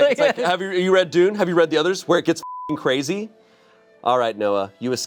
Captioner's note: beep